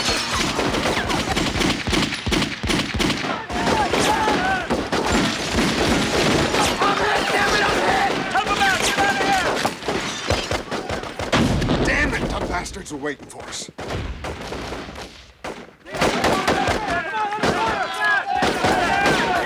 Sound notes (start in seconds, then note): 11.3 explosion; 14.8 gunshots